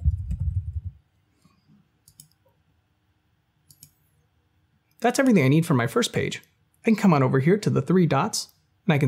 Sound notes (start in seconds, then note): 2.1 mouse clicks